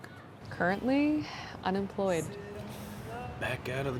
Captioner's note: sighs